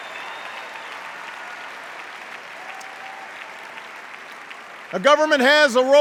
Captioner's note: cheers and applause